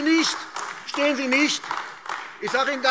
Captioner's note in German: Beifall AfD